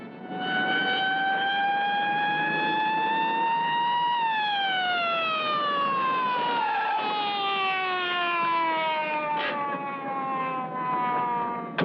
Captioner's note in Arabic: صافرات الشرطة